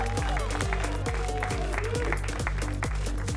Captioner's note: applause and cheering cont